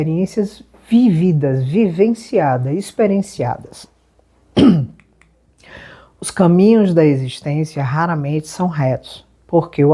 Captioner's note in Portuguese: limpando a garganta